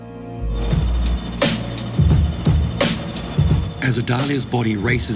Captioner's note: slow beat music; whirring